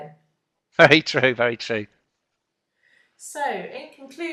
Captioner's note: laughs